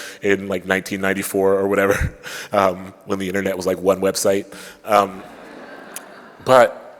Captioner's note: laughter